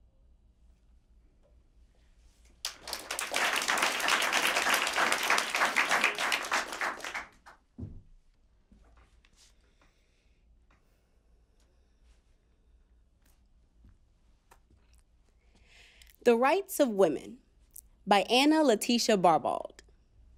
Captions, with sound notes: (applause) - “The Rights of Women” by Anna Laetitia Barbauld.